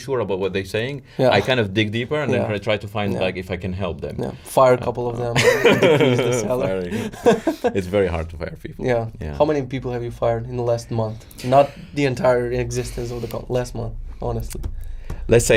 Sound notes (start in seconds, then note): 5.4 laughs